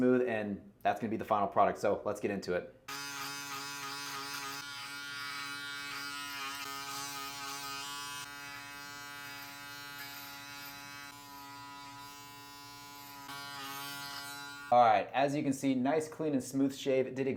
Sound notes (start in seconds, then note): 3.1 shaver buzzes